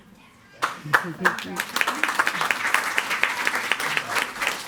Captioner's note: all applauding